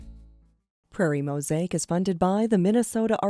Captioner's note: voiceover